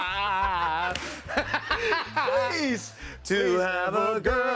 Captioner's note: laughter